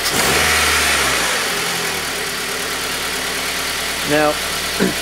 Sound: engine revs again

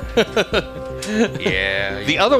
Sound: laughing

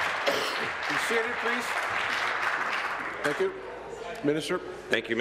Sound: applause

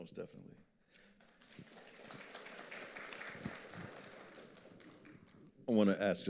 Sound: audience applauding

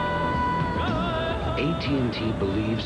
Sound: more chanting

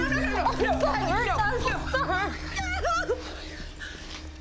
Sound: wails

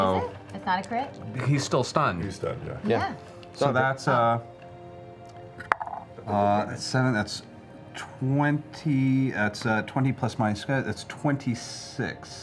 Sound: snapping

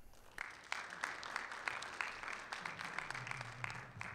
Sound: audience applauding

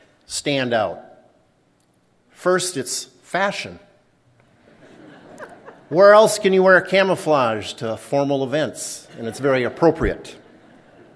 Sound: laughter

